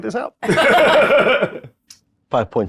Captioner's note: laughs